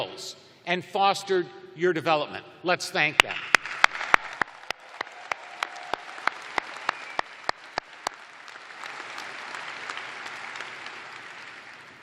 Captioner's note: cheers and applause